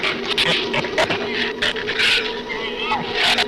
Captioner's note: shrews snarl